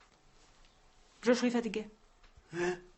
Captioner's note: in french